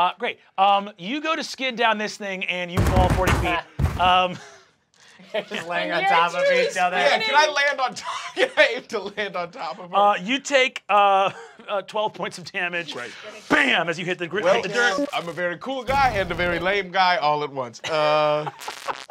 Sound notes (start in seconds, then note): 8.0 chuckles